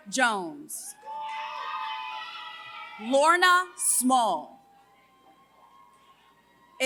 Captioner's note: applause